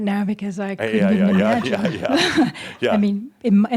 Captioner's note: they chuckle